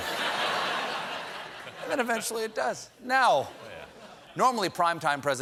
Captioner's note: laughter